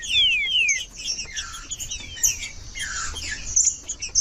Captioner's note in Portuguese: trinca ferro cantando